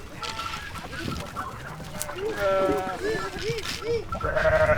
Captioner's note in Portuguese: sons de cabras